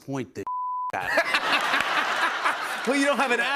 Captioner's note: laughter